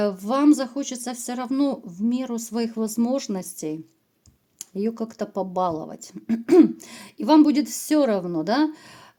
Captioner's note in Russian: откашливается